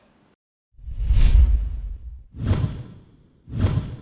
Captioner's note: whoosh